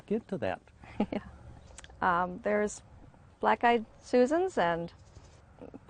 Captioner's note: laughing